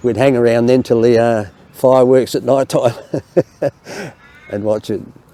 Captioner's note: laughs